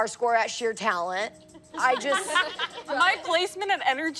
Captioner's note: laughing